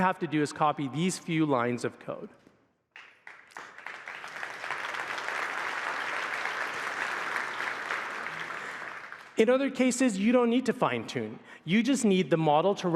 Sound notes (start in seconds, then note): 2.9 applause